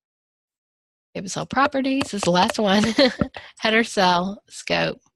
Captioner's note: laughs